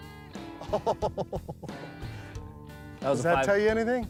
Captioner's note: laughing